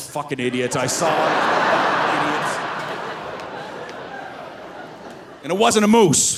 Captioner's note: audience laughing